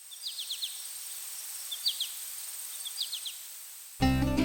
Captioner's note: insects chirping